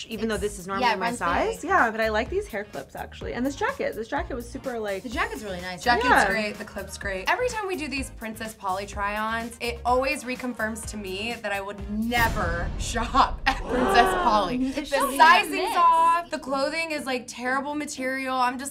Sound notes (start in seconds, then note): 13.7 audience gasps